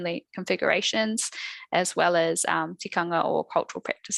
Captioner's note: non-english speech